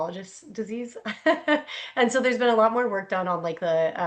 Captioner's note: laughs